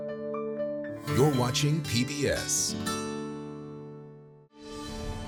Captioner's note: voiceover